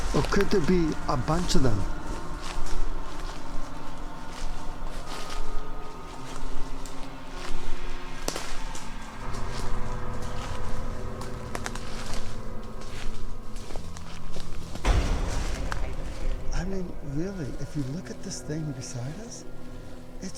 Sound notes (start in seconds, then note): 2.8 eerie music; 8.2 twigs snapping